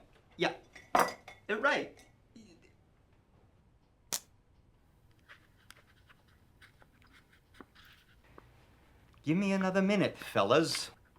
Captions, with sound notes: Yeah, you're right. (pen clicks) (pen scratching) Give me another minute, fellas.